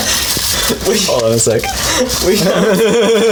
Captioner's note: laughing